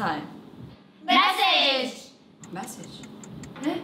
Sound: timer ticking

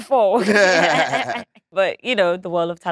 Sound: Letitia and John laughing

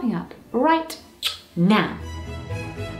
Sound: kiss

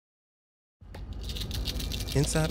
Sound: pills rattling

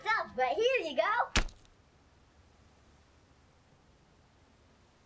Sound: meat splat

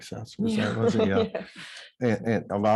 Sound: laughing

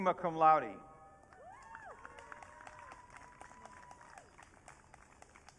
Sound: audience cheering

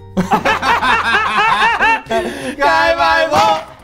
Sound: giggling

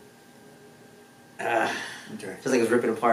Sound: patient groans

